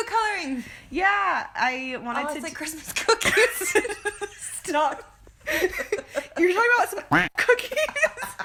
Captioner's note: quack